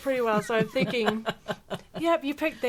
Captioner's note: laughing